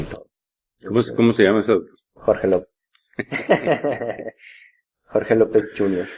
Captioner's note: laughs